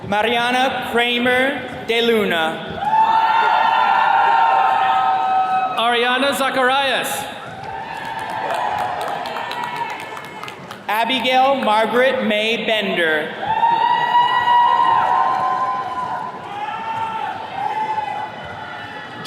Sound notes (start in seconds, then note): 2.7 attendees cheering; 7.3 attendees cheers and claps; 13.3 attendees cheering